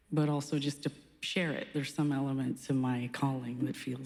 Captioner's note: none